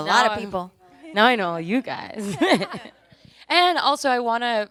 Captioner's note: laughs